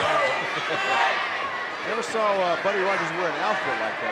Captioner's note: chuckles